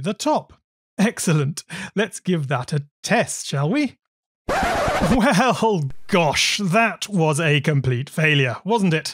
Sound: laughs

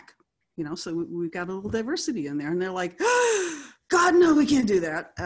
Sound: gasps

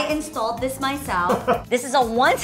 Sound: laughs

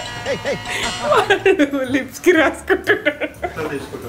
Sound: laughing

